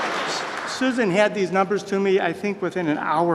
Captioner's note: applause